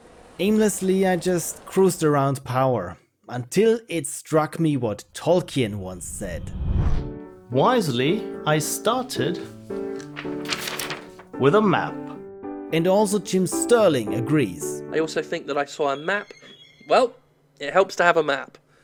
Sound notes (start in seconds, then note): 12.6 narrating